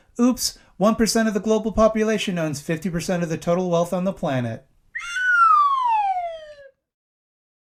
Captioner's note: sad slide whistle noise